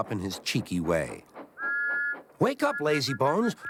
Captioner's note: toot